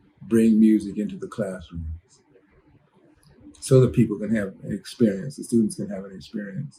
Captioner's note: none